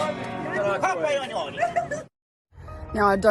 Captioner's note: laughter